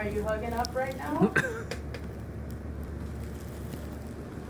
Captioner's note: laughing